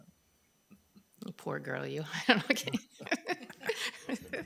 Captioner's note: laughs